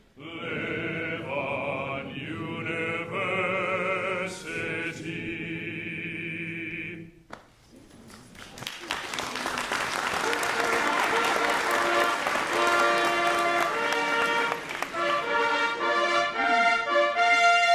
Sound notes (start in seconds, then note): 8.1 applause